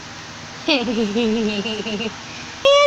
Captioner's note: chuckles